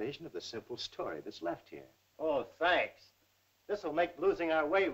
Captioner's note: none